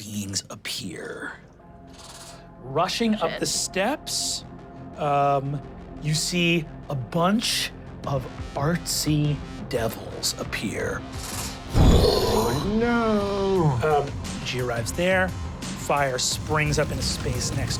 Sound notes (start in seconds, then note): 0.1 dramatic music; 11.7 fire whoosh